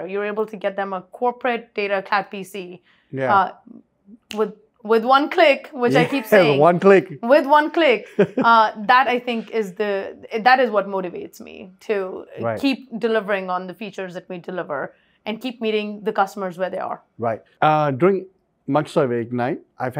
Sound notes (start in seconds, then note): 8.1 chuckles